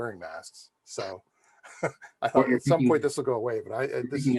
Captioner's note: laughs